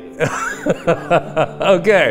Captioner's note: laughs